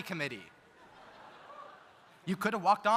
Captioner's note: audience laughs